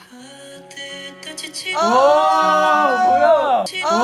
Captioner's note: tears